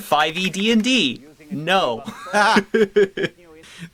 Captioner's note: laughs